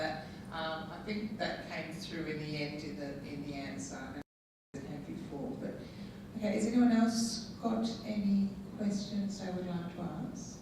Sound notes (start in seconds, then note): none